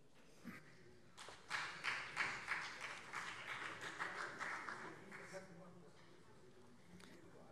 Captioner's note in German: Beifall